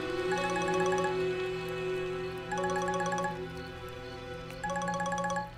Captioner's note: Phone ringing